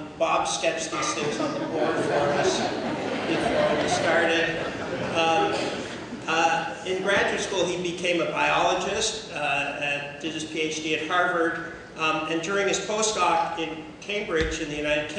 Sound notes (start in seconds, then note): 4.2 laughter